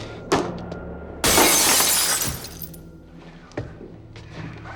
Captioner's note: glass shatters